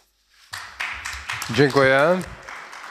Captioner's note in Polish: oklaski